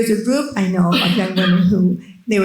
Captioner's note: attendee coughing